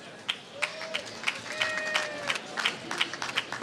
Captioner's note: applause